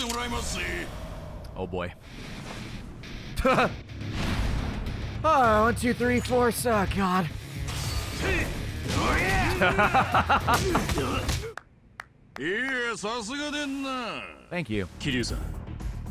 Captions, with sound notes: Oh boy. (laughs) One two three four-- Oh god. (laughs) Thank you.